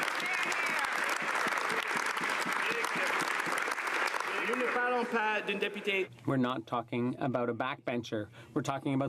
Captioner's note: some Applause